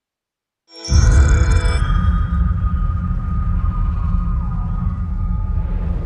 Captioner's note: dramatic sound